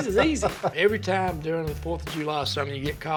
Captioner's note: laughs